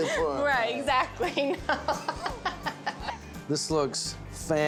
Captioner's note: giggling, laughing